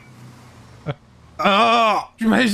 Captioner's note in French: il crie